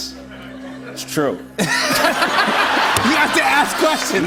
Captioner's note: laughter